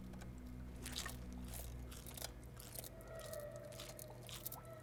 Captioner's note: insect crunches